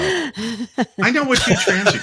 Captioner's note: laughing